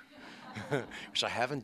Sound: laughter

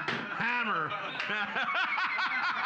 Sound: loudly laughing; gavel knocks; loudly laughing

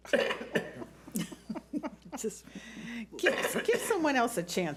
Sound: board laughs

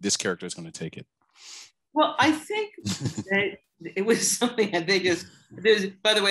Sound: laughter

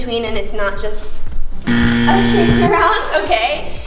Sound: buzzer sound

